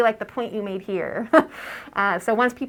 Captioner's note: laugh